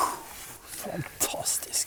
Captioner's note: gagging